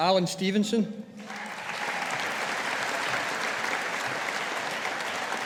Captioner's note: audience applauding